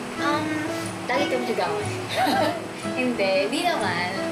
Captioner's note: laughs